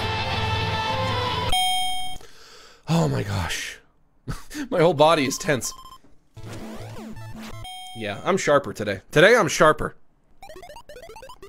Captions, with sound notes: [ Bell dings ] Oh, my gosh. [ Laughs ] My whole body is tense. Yeah, I'm sharper today. Today, I'm sharper.